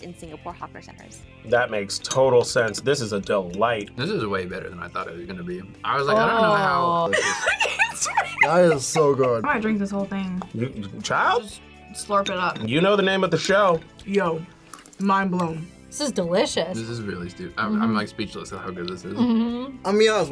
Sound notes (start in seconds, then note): 7.0 laughs